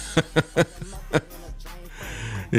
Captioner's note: laughs